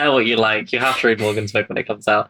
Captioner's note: laughs